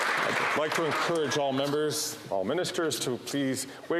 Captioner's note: some Applause